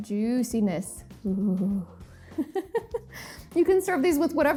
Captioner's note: laughs